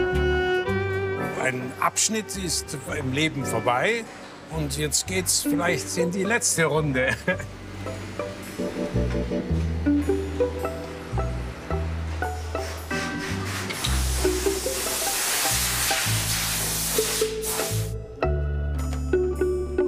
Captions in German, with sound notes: Ein Abschnitt ist im Leben vorbei, und jetzt geht es vielleicht in die letzte Runde. (Lockere Musik) (Zischen)